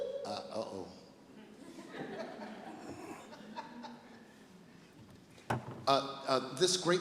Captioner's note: laughing